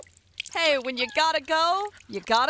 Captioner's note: pee splatters; dog whimpers